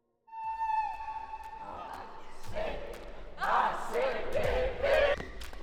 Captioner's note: war cry